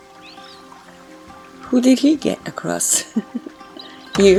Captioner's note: chuckles